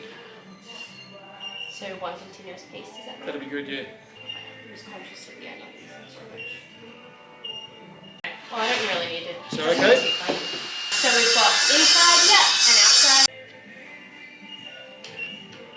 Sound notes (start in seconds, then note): 8.2 chatter